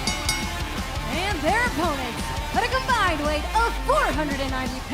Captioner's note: bell ringing